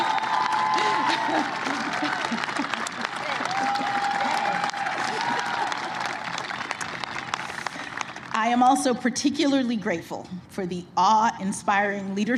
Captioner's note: applause